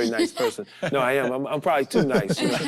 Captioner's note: group chuckles